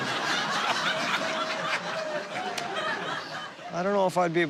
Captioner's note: laughter